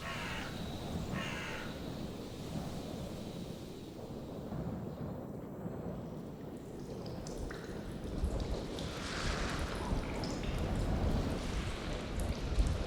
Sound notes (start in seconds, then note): 0.0 wind blowing; 5.9 water trickling